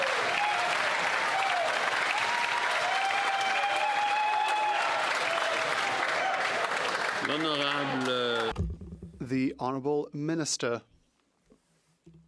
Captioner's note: some Applause